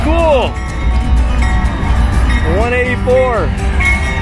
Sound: train bell

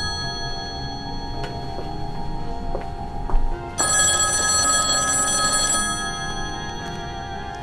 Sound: phone rings

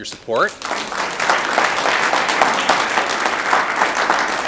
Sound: audience applauds

